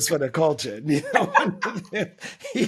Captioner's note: laughing